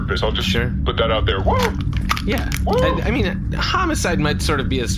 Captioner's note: crushes can